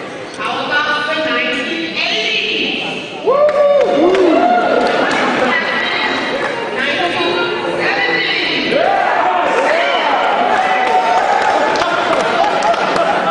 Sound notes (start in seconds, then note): 3.2 cheering; 8.7 cheering